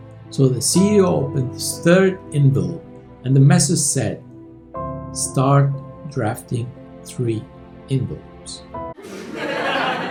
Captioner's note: laughter